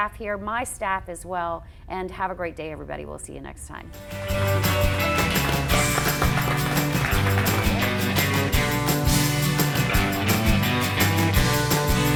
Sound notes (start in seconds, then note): 4.0 applause; 7.8 upbeat music